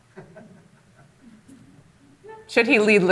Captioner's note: audience laughing